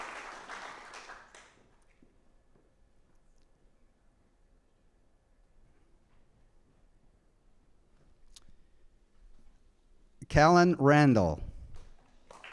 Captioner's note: applause